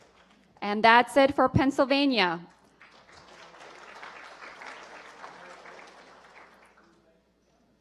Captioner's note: applause